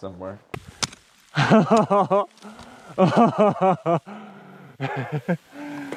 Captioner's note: laughing maniacally